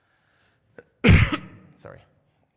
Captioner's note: coughs